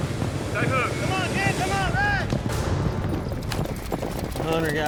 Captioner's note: hoofbeats